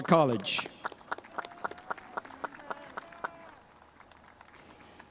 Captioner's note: spectators applauding